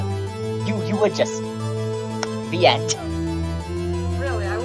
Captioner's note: clap